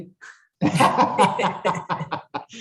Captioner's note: laughter